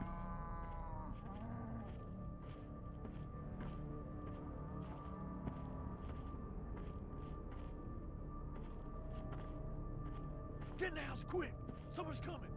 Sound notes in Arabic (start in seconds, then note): 0.2 موسيقى متوترة; 6.2 خطوات بطيئة